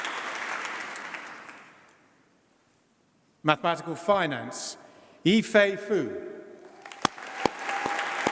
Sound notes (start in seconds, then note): 6.7 applause